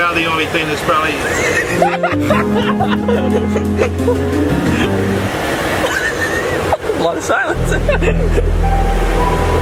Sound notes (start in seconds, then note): 1.9 cackling